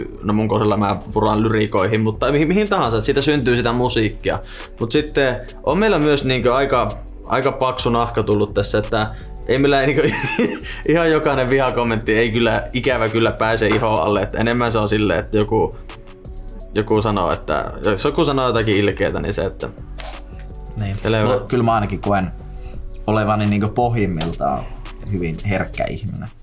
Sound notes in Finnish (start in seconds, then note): 19.9 Napsauttaa sormiaan